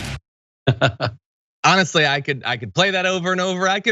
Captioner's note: laugh